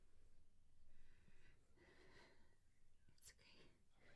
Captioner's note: Marianne breathing heavily